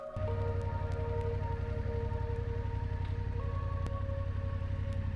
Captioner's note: motorcycle revving